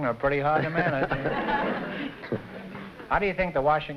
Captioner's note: laughter